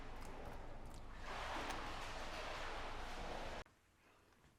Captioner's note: water sloshing